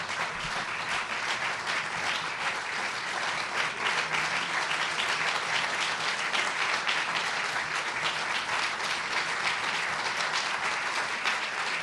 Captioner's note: applause